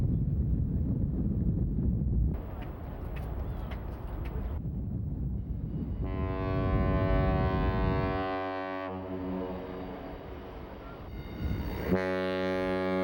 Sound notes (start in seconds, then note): 6.0 horn